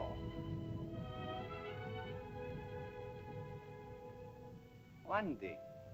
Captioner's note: Tumak speaks in caveman language; volcano rumbles; sentimental music